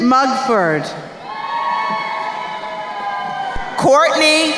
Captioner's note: crowd cheering